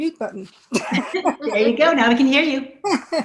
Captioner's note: laughter